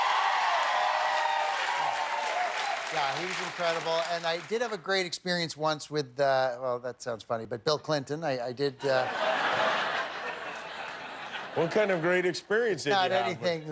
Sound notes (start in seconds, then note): 3.1 cheers and applause; 8.9 laughter